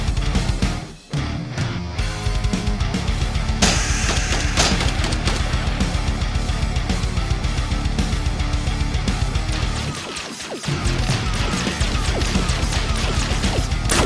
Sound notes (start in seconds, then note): 3.6 gun blasting; 3.7 scorpion hisses; 9.5 gun blasting